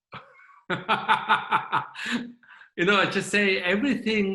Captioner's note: laughing